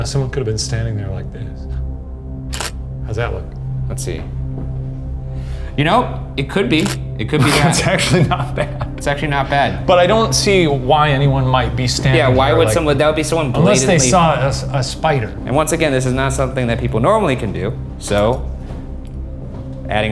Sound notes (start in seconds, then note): 2.5 camera shutter clicks; 7.4 laughing